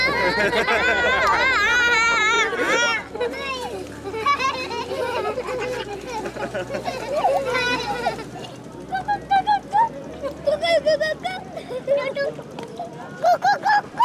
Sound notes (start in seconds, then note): 1.5 laughter; 4.1 mixed chatter